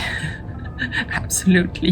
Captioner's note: laughs